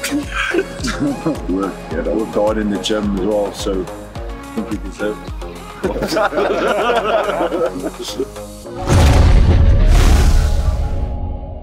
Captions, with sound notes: (laughter) Worked hard in the gym and all, so I think we deserved it. (all laughing) (cheery techno music)